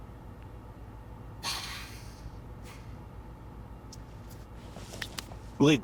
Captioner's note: breathes deep